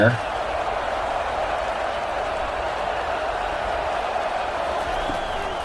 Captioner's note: crowd cheering